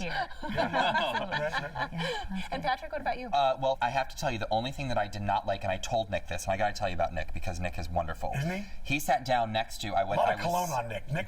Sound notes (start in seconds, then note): 0.1 laughter